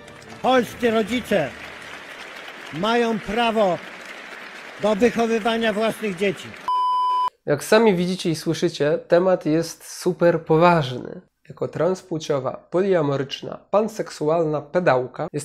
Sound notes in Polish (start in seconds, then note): 3.6 oklaski; 6.1 oklaski